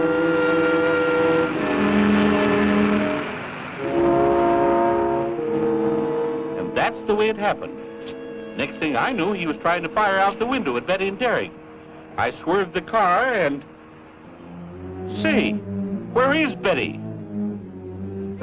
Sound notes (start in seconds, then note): 0.6 car revving